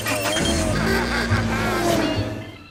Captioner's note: laughing